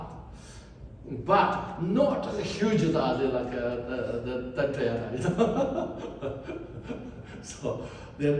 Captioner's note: laughs